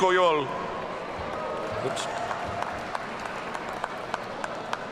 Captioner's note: audience cheering